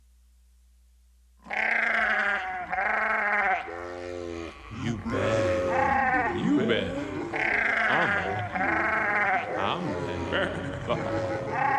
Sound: sheep bleating, voices saying “You bad, I’m bad”

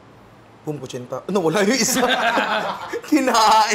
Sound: laughter

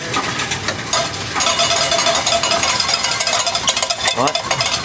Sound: coins thudding

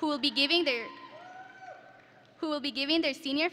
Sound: audience members cheering

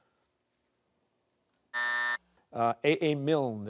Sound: buzzer

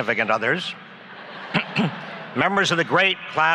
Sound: laughs

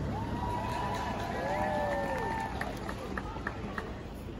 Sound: cheering

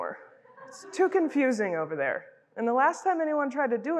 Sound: crowd laughing

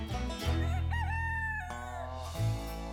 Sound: rooster crowing

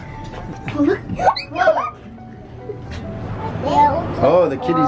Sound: shrieks

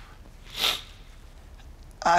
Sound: sniffles

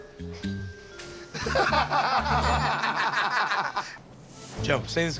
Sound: laughter

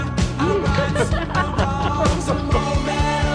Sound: all laughing

